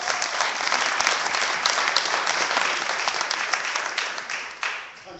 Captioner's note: clapping